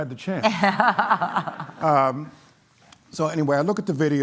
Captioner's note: laughter